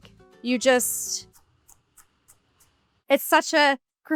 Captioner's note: knife chops